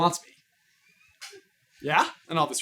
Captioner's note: laughing